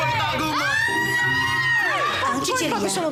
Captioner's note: screaming